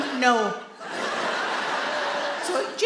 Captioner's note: audience laugh